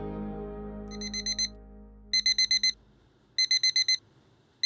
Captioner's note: alarm beeping